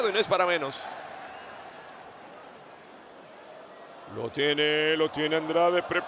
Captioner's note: applause